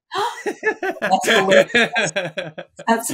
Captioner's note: both laughing